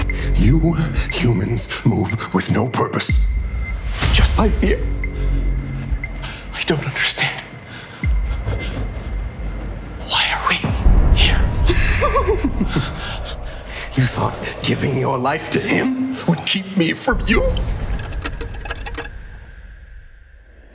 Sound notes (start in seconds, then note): 11.6 laughing maniacally; 18.1 eerie music